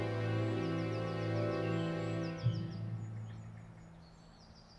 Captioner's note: birds singing